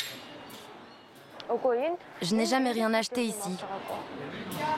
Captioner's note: foreign spoken audio